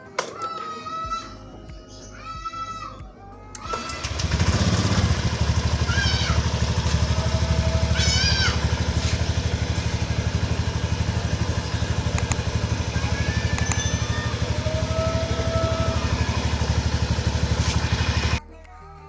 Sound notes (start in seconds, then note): 3.7 motorcycle engine